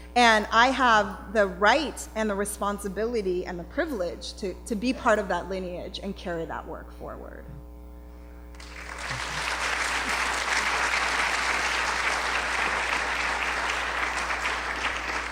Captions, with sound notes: And I have the right and the responsibility and the privilege to be part of that lineage and carry that work forward. [Applause.]